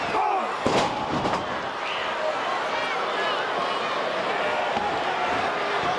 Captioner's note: crowd chattering; fighters grunting